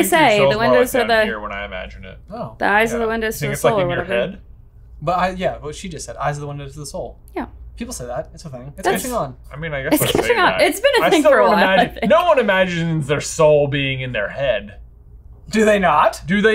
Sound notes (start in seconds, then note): 9.9 laughs